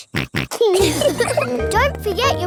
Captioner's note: snorts; laughs